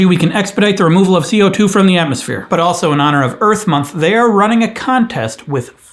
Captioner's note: none